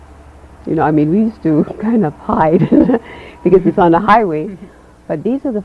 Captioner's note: chuckles